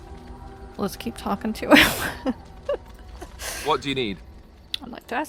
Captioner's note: laughs